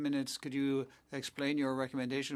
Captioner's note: speaking French